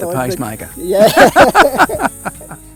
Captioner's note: laughs